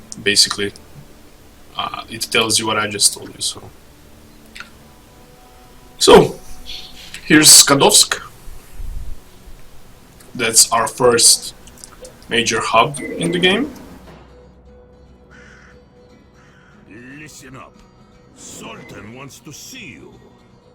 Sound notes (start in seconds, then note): 12.7 creaky, rusty, heavy, metal doors opening